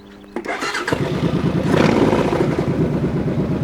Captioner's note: starts motorcycle